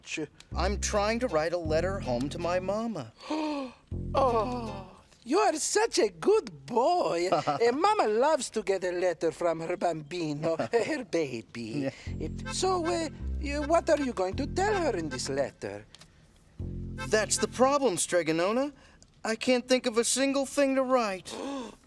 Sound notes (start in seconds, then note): 3.2 gasps; 21.3 gasps